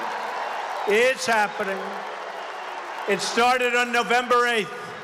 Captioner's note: applause